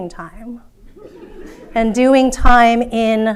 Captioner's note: audience laughing